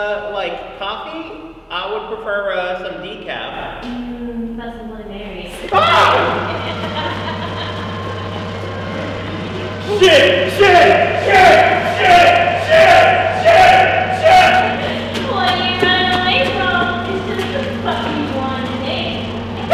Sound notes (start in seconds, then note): 5.7 screams; 6.6 laughing; 19.5 screams